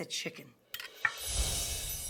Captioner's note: knife clanking